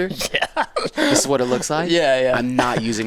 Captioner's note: laughs